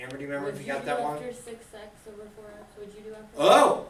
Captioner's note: voiceover